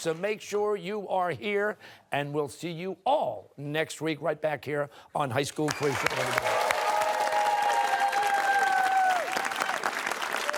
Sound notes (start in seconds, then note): 5.6 cheers and applause